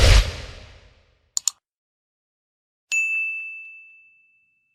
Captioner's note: mouse clicking; bell dinging